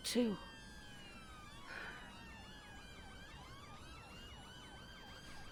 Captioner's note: sirens continue whining